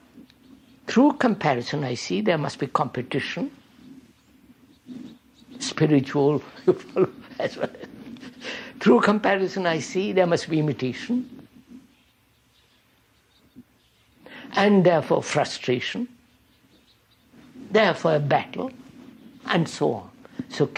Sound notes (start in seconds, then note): 5.6 laughs